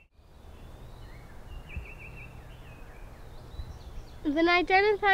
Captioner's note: birds chirping